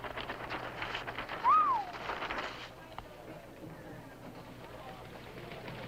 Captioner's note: applause